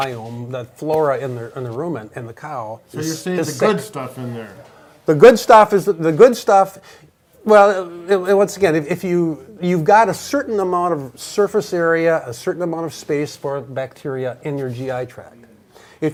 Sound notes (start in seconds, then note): none